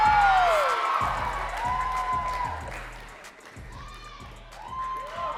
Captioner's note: audience cheering and clapping